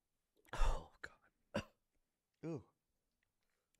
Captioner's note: coughs